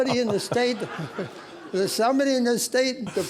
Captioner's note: audience laughing